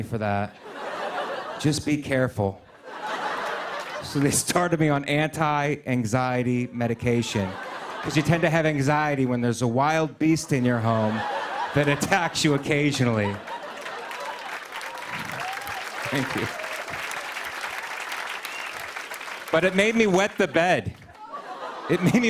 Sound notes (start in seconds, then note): 2.6 laughter; 13.0 cheers and applause; 16.7 applause